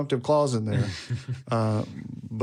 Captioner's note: speaker chuckles